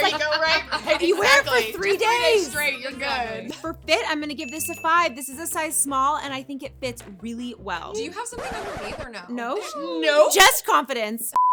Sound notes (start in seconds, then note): 0.0 laughing; 4.3 bell ringing; 8.1 record scratching